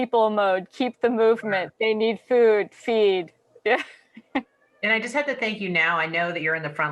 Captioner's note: laughter